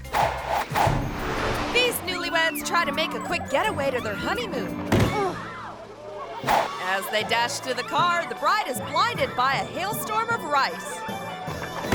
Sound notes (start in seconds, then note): 0.1 air whooshes; 4.8 bride thuds and groans; 5.1 guests exclaiming